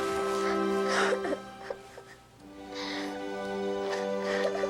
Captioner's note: Erica crying